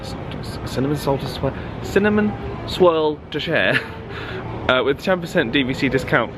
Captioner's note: laughs